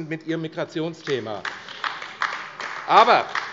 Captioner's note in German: Beifall AfD